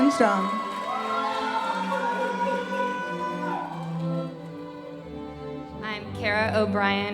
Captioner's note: audience cheering and applauding